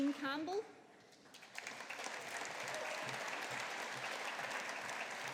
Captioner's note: audience applauding